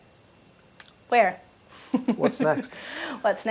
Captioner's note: laugh